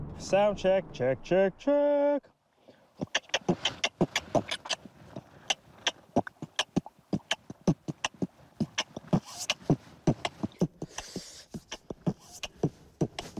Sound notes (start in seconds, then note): 3.0 beatboxing; 10.0 hisses